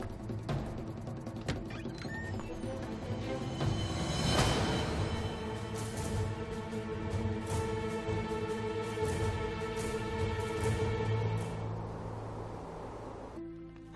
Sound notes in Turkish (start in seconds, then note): 1.5 Kapı gıcırtısı sesi; 3.5 Müzik - Gerilim